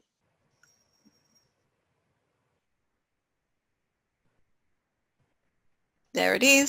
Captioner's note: pause